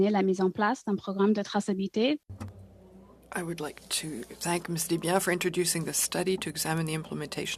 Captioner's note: speaking French